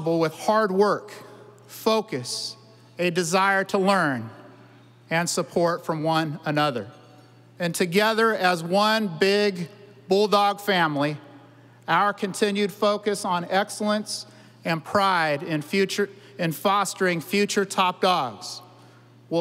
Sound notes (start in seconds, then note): none